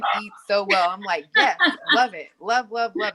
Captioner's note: laughs